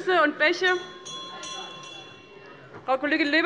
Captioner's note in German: Unruhe - Glockenzeichen des Präsidenten